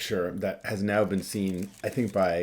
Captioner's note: camera shutter clicking